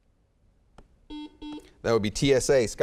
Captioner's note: beeping